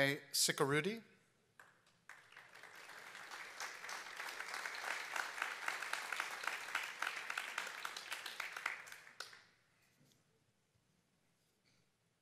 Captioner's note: applause